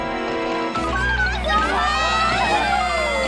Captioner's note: all exclaiming